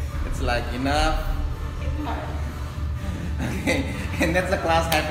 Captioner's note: laughs